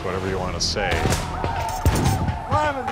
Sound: gunshots

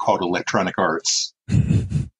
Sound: chuckles

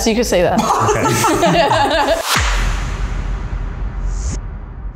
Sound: everyone laughing

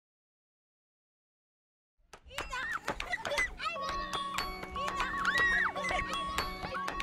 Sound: children laughing

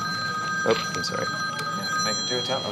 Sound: telephone ringing

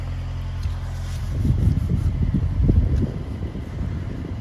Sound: machinery humming

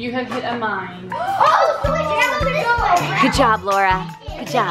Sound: kids all talking at once

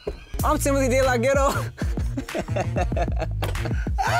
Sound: both laughing

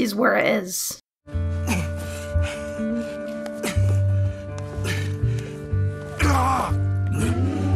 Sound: pained noises

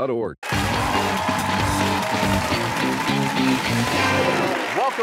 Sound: cheers and applause

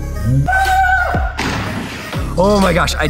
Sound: screams; water splashes

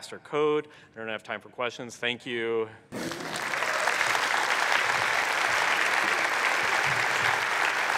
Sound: applause

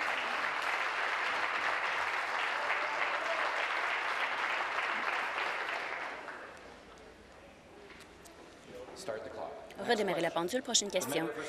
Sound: applause

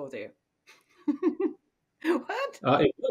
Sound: giggles

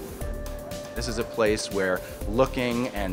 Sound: voiceover

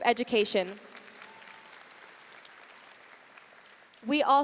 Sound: audience applauding

